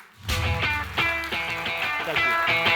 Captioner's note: audience applauding; lively music